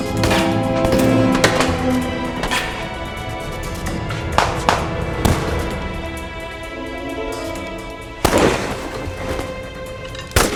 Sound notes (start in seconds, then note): 0.1 dramatic music; 4.9 guns firing; 7.7 dramatic music